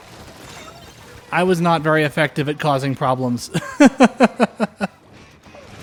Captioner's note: laughter